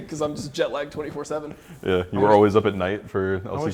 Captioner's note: laughs